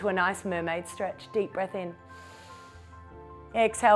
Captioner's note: inhales